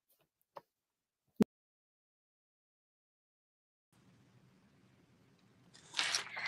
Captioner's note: silence